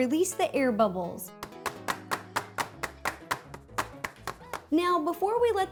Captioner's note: tapping the baking sheet